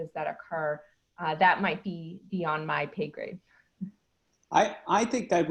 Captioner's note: laughing